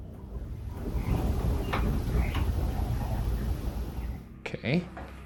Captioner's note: light knocking